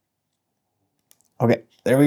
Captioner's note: silence